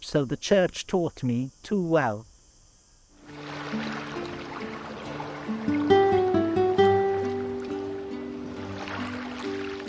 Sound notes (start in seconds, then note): 3.2 water splashing; 3.4 optimistic music